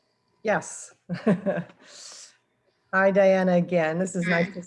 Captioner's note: chuckles